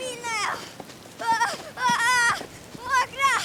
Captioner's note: an energetic boyish cry